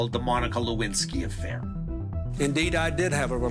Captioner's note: soundbite of archived recording